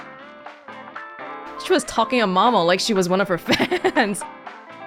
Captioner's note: chuckles